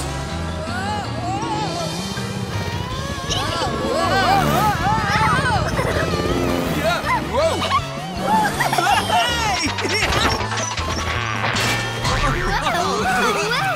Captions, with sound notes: Whoa, whoa! Whoa, whoa, whoa-hoa! Ah, whoa! [giggling] Whoa, whoa, whoa!